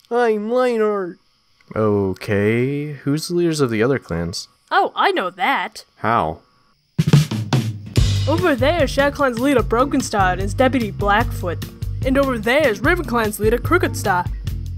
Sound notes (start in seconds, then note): 1.6 hesitantly